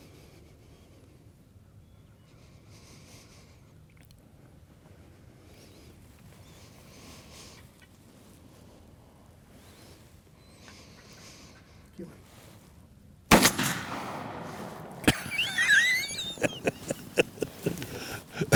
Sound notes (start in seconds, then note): 13.3 gun fires; 14.9 laughs